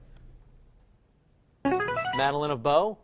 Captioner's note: chiming